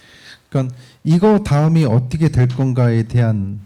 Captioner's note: speaking korean